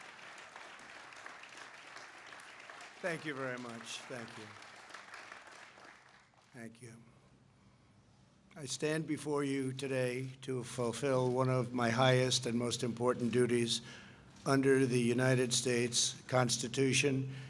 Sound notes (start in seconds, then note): 0.0 applause